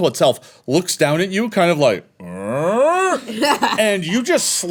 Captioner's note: confused mouth noise